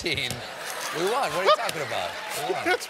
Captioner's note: laughter